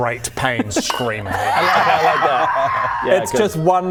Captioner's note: screaming in great pain